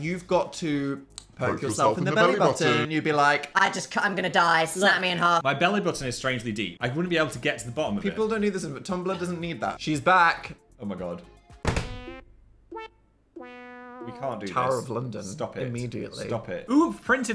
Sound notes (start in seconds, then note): 11.6 quirky music; 11.6 hand thuds